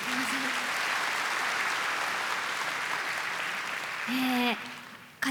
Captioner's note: applause